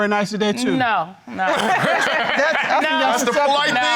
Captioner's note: audience laughing